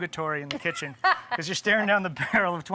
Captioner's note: laughs